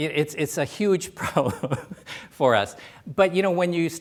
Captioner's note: laughs